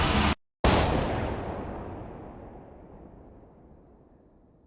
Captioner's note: gun bangs